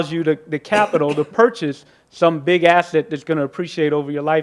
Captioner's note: participant coughs